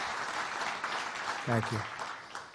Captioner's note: applause